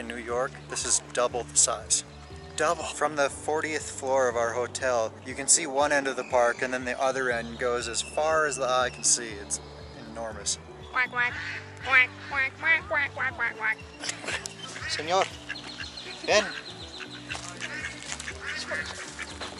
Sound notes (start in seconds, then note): 11.8 making duck sound; 14.0 laughs